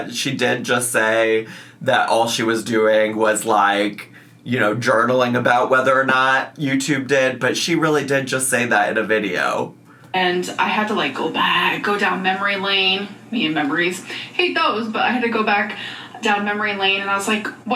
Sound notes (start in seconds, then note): none